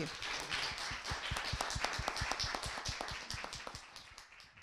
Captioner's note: audience clapping